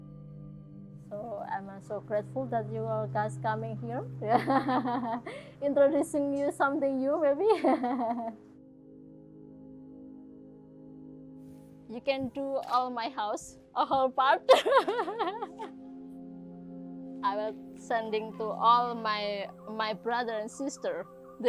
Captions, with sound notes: So I'm so grateful that you are guys coming here, (laughs) introducing you to something new, maybe. (laughs) (gentle music) You can do all my house. (camera shutter clicks) The whole part. (laughs) I was sending to all my brother and sister.